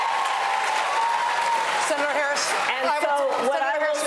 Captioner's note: cheers and applause